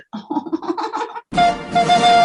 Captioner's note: whimpering; theme music